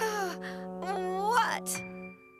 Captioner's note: sighs